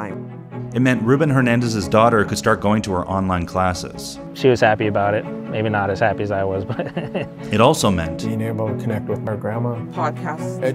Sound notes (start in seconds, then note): 6.6 laughs